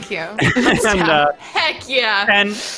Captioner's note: laughing